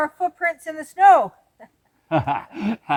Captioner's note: laugh